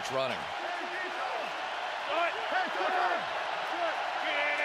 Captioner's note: crowd cheering